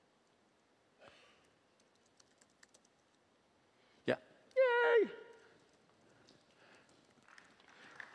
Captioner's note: applause